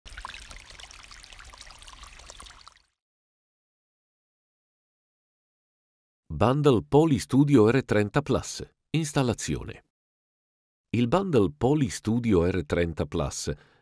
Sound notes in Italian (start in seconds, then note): 0.1 Suoni della natura